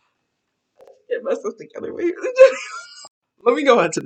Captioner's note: laughing